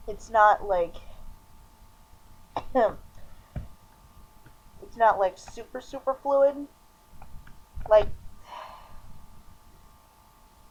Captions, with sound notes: It's not, like... (small coff, Hasselhoff) It's not like super-super fluid? Like... (sigh)